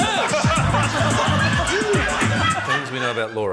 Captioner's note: funky hip-hop beat plays; laughter